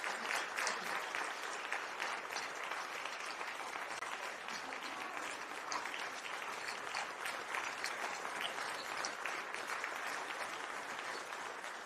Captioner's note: applause